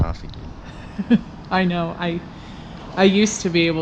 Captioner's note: laughs